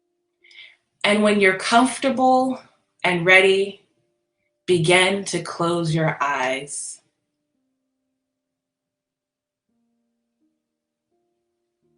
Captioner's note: pause